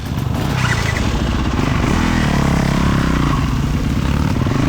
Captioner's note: engine revving